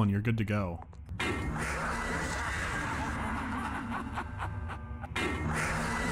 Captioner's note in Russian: с ударом молота, слышен отдалённый смех